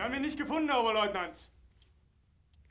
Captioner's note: speaking german